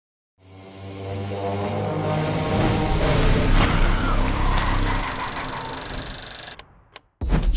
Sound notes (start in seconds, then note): 3.0 chainsaw revving; 5.5 film strip running